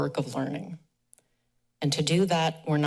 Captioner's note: pause